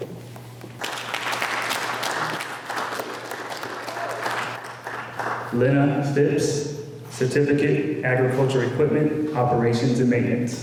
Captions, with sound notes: [ applause ] Lyna Phipps, Certificate Agriculture Equipment Operations and Maintenance